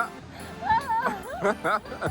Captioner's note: laughing Excitedly